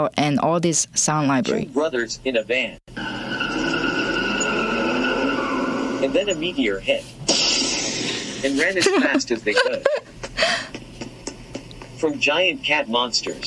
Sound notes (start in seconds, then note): 2.9 car speeding; 7.2 explosion; 10.1 running steps